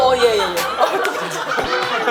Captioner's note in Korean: 푸학